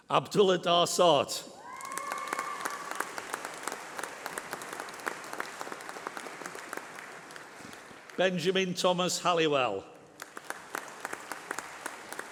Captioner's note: applause